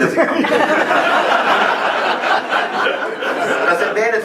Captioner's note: laughing